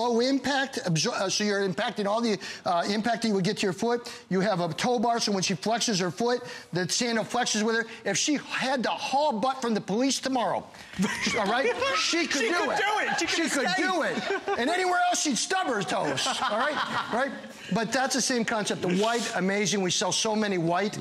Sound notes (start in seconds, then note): 15.8 laughter